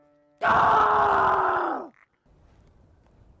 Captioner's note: loud yell of frustration